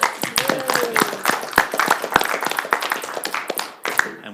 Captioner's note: attendees applaud